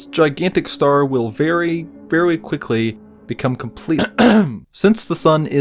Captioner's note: aggressively clears throat